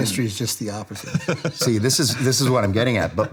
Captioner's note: laughing